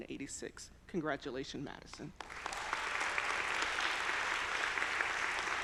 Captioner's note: audience applauding